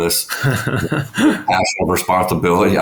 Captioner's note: laughing